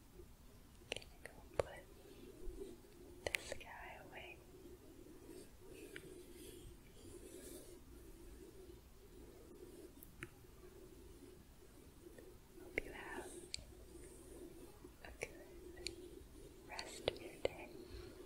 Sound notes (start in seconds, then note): 5.0 gentle rubbing